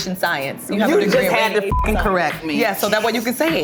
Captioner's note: beep